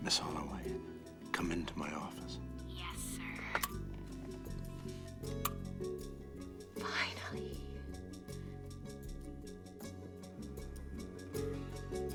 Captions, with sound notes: MS. HOLLOWAY, COME INTO MY OFFICE. YES, SIR. [WHISPERS] Finally.